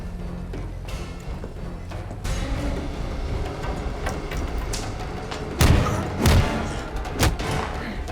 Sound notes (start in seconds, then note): 4.9 growling